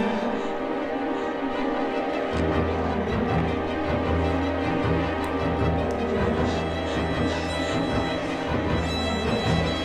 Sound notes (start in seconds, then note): 0.1 scared breathing; 6.0 scared breathing